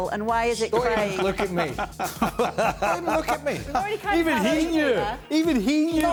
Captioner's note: laughter